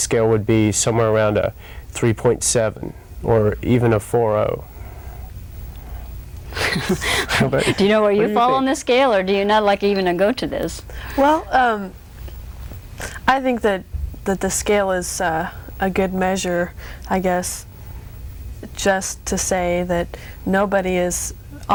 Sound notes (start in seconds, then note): 6.5 laughs